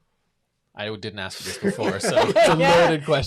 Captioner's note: laughs